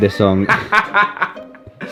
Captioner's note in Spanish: Risas